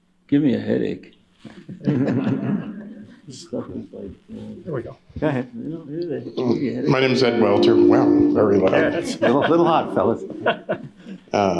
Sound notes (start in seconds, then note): 1.5 laughter; 6.1 feedback hums